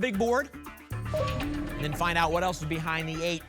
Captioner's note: ping